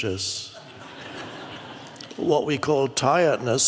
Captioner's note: audience laughs